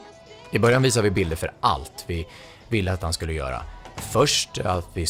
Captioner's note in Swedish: Mansröst